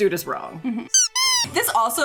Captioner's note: squeaky toy squeaking